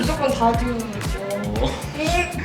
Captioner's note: worried